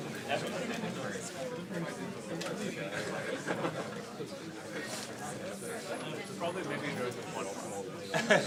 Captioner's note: background chatter